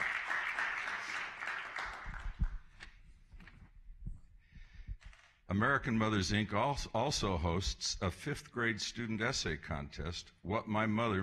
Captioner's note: applause